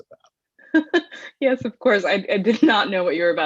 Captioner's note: laughs